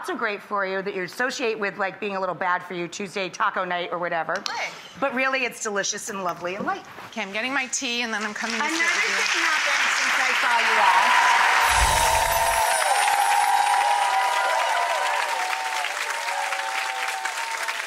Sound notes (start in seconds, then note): 9.2 audience applause